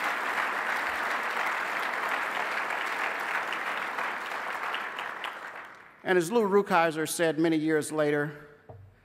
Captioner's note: applause